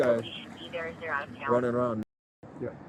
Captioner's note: radio chatter